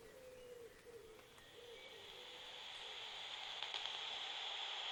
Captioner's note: static hiss of detector fades in